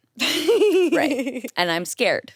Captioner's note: chuckles